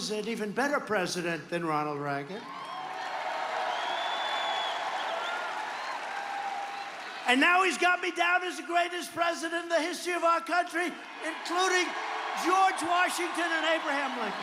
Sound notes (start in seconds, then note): 10.0 cheers and applause